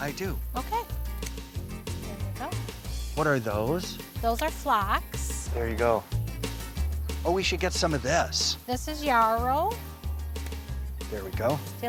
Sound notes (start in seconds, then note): 1.2 scissors snipping